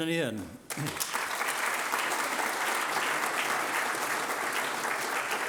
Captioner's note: audience applauding